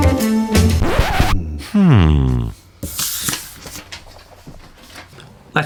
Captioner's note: record scratching